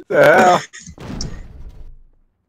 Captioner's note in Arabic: أصوات برميل